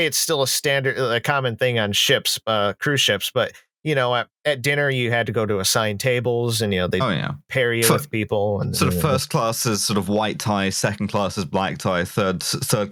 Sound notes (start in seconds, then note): 8.5 grumbles